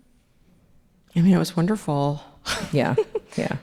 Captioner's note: laughs